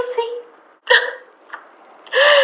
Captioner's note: nervous laughter